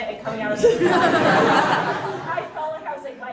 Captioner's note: audience laughing